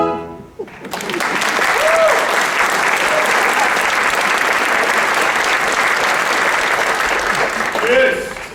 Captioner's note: applause